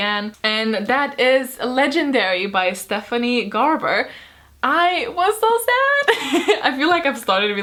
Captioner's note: laughs